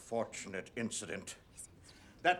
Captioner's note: whispering